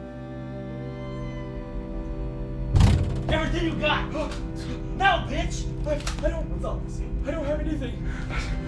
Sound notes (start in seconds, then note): 2.7 door slammed open